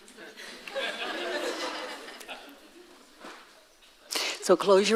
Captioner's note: audience laughing